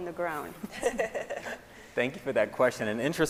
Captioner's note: scientists laughing